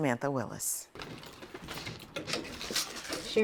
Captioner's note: keys clattering; door squeaks